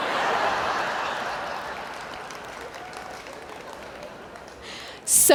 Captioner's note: laughter